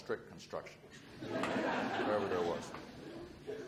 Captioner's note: audience laughs